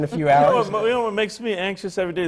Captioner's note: laughs